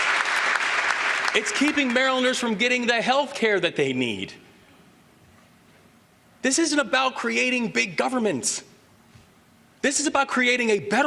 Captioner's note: applause